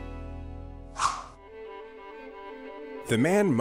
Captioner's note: somber music; slide swooshing